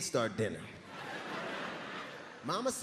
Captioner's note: crowd laughing